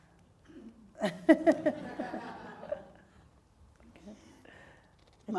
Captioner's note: audience laughing